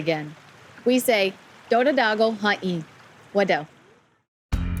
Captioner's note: speaks Cherokee language